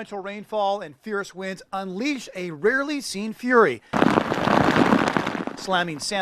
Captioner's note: hard rain falling